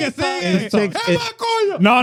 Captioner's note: speaking In Foreign Language